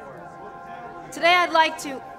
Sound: press chatter

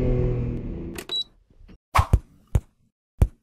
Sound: car stops 3 times

